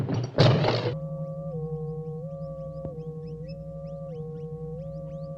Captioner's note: electrical hum